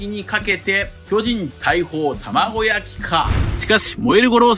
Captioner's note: cannons